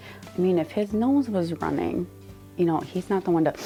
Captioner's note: inhales sharply